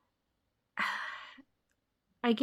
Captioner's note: sighs